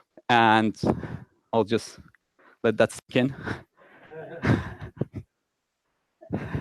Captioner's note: laughs loudly